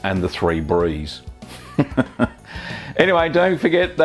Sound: laughing

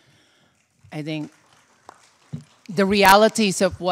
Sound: audience applauding

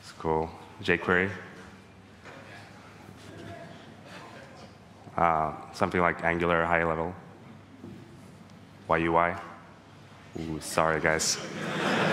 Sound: laughing

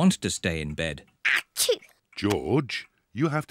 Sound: sneezes

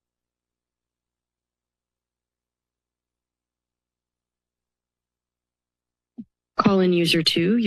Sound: silence

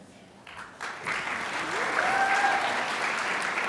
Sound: crowd applauds

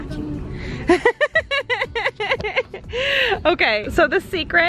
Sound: laughing

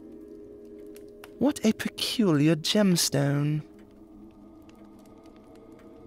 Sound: none

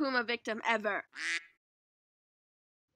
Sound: quack

